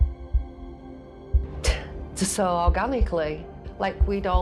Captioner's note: scoffs